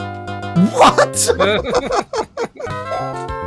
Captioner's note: chuckles